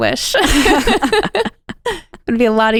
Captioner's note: both laughing